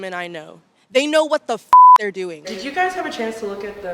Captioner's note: beep